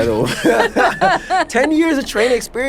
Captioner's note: laughing